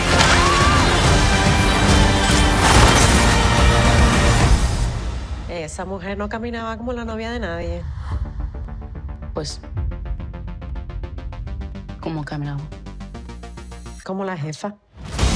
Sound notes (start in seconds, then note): 0.2 women exclaim; 2.6 rapid gunfire